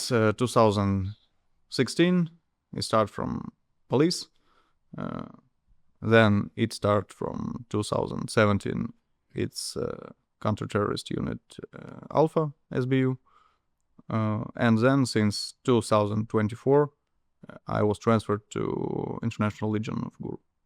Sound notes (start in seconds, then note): none